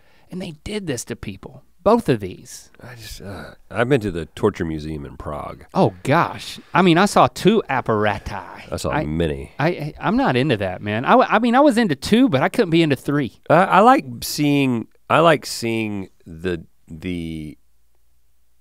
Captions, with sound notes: And they did this to people, both of these. - (sighs) I've been to the Torture Museum in Prague. - Oh gosh, I mean I saw two apparati. - I saw many. - I'm not into that, man. I mean I was into two but I couldn't be into three. - I like seeing the